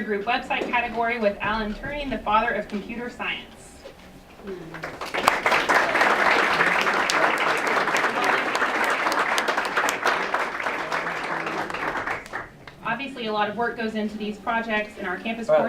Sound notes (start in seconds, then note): 4.7 applause